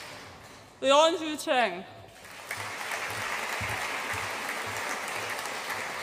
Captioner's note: audience applauds